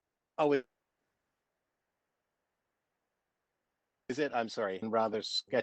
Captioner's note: audio drops